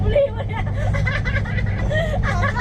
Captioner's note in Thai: เสียงหัวเราะ